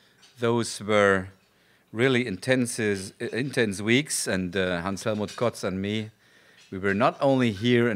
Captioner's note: non-english speech